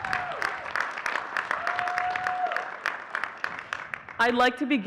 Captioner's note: audience cheering and clapping